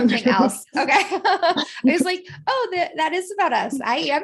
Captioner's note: laughter